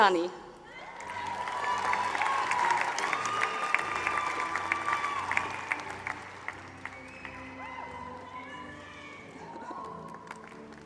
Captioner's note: applause